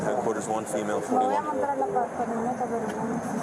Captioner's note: speak in Foreign language